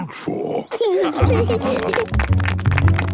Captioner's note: laughing; clapping